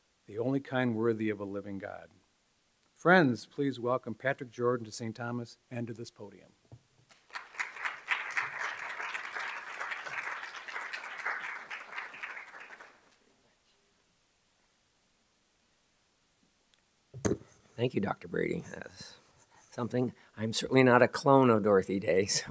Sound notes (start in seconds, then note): 7.1 clapping